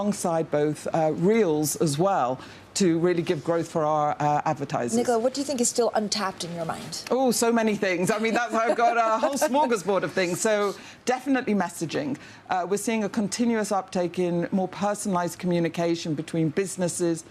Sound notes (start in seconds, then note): 8.0 laughter